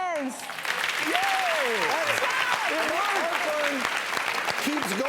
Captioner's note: audience applause